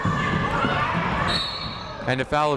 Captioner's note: whistle blows